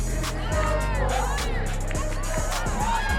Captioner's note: crowd; intense upbeat music; crowd cheering